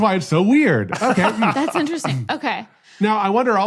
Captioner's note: laughs